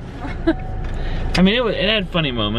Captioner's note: laughs